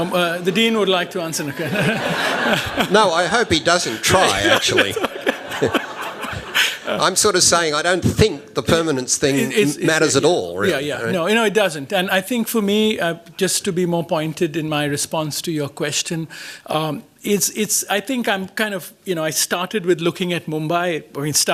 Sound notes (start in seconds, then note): 1.4 laughter